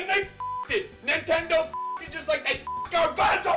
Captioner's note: beep